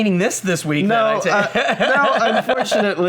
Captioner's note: hearty laughter